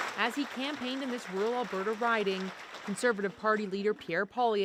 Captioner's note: applause